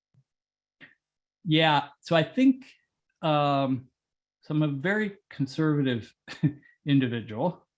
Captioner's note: laugh